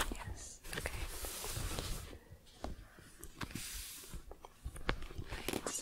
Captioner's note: book shuffling